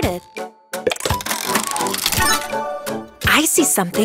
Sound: cranking

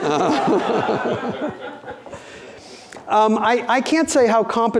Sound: audience laughing

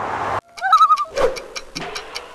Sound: loon call

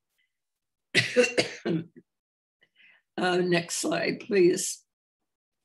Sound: coughs

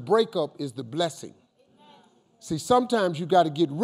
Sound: crowd

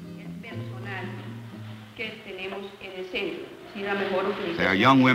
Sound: speaking Spanish

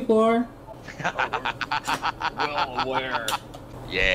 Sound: maniacal Cackle

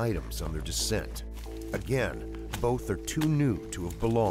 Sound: voiceover

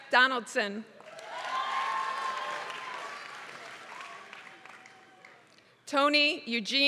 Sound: applause

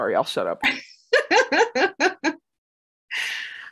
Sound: laughter

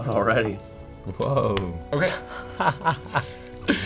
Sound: laughing

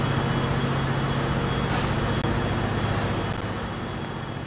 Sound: doors open

